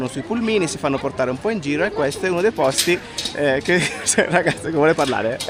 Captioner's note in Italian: risate